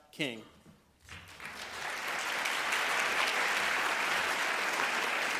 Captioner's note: applause